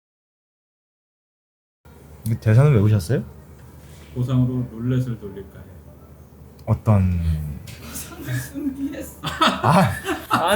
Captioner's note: laughs